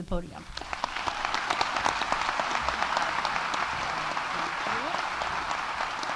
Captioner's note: audience applauding